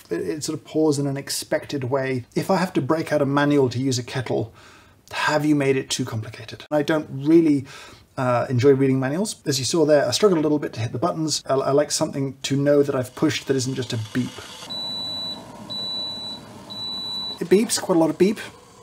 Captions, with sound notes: It sort of pours in an expected way. If I have to break out a manual to use a kettle have you made it too complicated? I don't really er, enjoy reading manuals. As you saw there, I struggled a little bit to hit the buttons. I -- I like something to know that I've pushed that isn't just a beep. (aggressive beeping) It beeps. Quite a lot of beep.